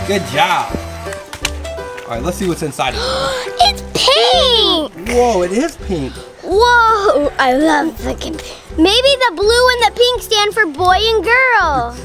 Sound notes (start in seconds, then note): 0.0 bubble wand buzzing; 2.9 gasp